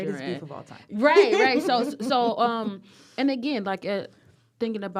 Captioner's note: laughter